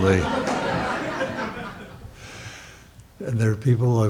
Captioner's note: audience laughs